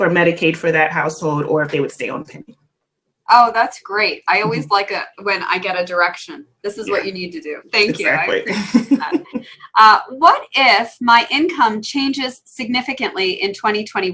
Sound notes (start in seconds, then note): 7.7 laugh